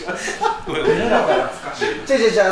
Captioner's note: laughs